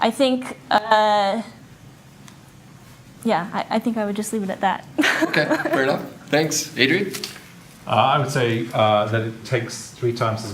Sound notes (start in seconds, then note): 5.0 laughs